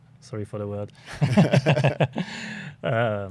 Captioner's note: laughter